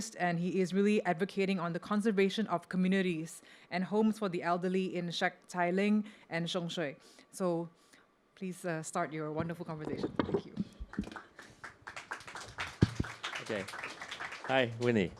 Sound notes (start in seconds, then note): 10.8 audience applause